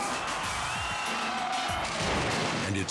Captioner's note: audience cheering